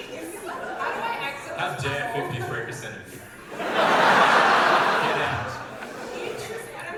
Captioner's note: audience laughter